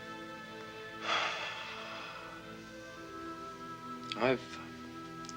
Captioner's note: Casey sighs